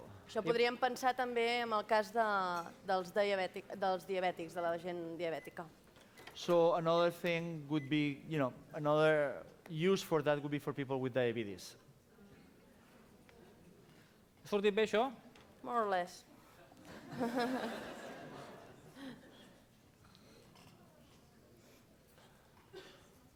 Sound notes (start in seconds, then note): 2.8 non-english speech; 14.8 non-english speech; 16.9 laugh